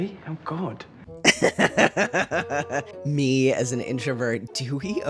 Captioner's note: laughter